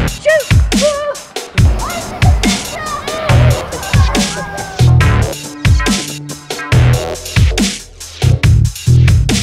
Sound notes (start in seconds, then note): 3.4 laughing; 6.0 scary techno music